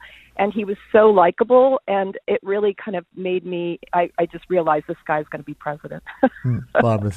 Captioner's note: chuckles